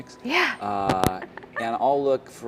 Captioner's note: laugh